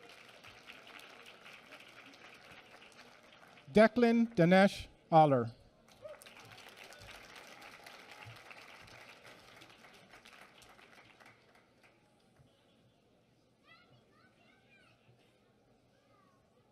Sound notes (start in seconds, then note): 5.8 applause